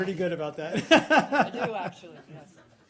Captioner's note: laughter